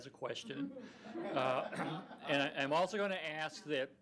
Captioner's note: audience laughs